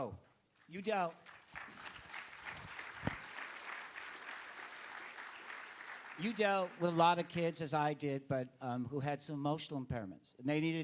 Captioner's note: applause